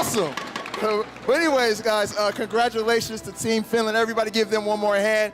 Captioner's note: speaking foreign language